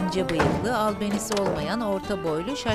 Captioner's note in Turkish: Kapı kapanma sesi; Kapı açılma sesi